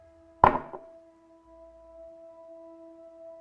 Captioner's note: glass thudding